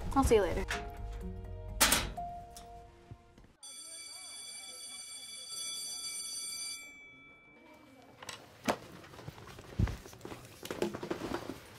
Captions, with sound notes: I'll see you later. (locker shuts) (school bell rings)